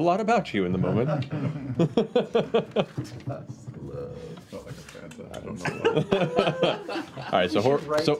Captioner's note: laughter